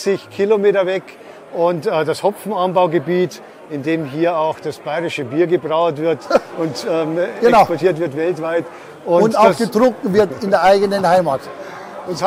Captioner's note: laughs